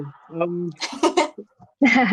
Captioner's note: laughs